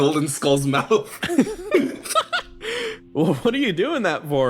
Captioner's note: laughs